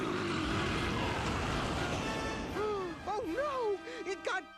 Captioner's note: snarling